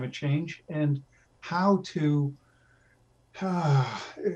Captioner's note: sighs